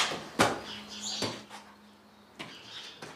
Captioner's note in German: Vogellaute